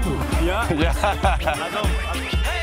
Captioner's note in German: lacht